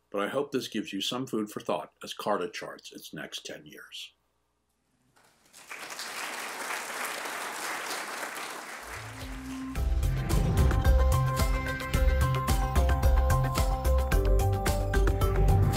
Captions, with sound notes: but I hope this gives you some food for thought as Carta charts its next 10 years. (audience claps) (upbeat music)